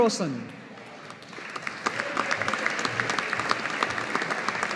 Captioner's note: audience applauding